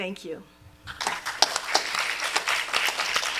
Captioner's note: applause